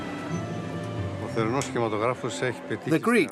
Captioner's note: speaking in foreign language